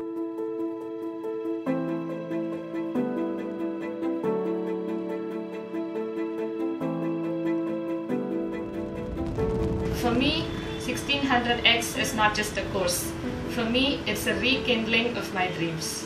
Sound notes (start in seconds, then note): 0.3 gentle music; 8.4 rocket takeoff; 15.8 gentle music continues